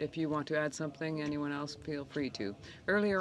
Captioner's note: speaking French